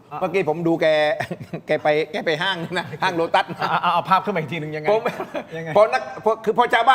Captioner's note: laughs